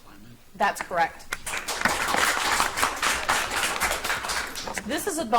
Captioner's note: audience applauds